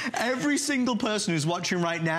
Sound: laughter

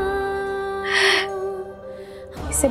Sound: laughing

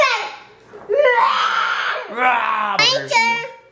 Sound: roars

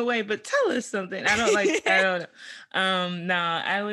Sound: laughs

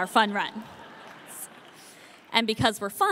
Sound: audience laughing

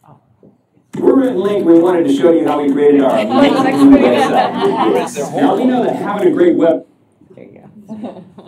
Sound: indistinct chatter

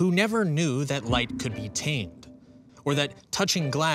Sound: spacious ping

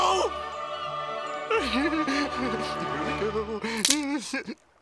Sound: laughing

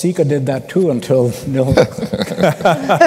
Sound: laughter

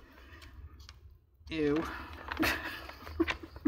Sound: laughs

